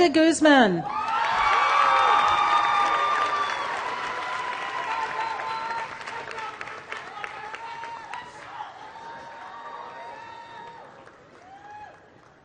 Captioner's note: applause